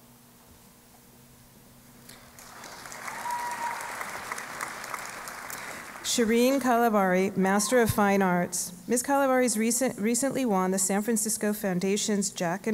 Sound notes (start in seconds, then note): 2.1 applause